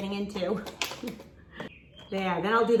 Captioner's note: chuckles